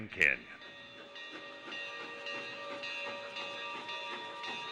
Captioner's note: bell ringing